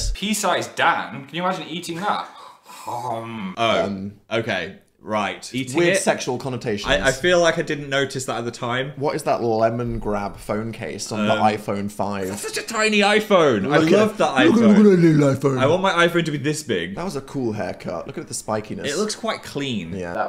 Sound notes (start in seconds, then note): 14.4 babbling